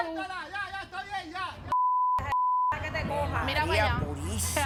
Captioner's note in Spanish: Bip